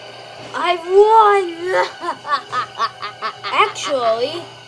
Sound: laughs evilly

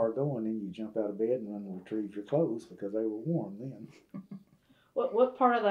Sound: laughter

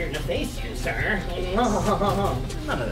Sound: laugh

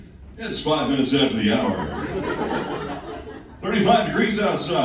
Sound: laughing

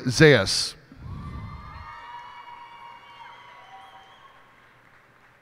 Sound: cheers and applause

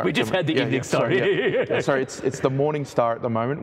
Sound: laughs

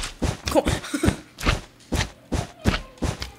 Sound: laughs

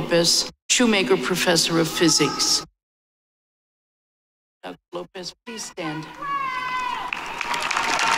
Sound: applause

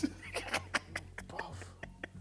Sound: man laughs

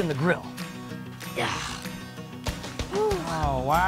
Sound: grunts

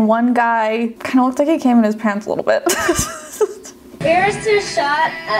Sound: laughs

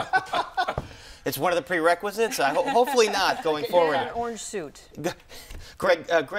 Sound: laughter

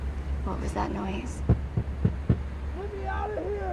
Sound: banging

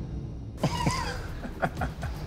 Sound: all chuckling

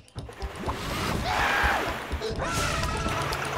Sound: screaming

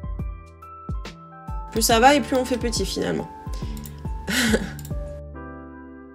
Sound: laughter

